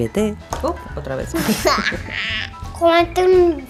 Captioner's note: laughs